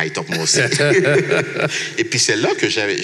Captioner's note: laughs